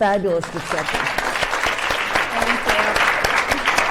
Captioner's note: audience applauds